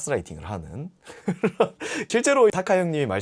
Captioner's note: laughing out loud